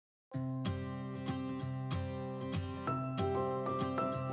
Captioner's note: whispering